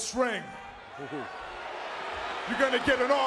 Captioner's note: crowd vocalizing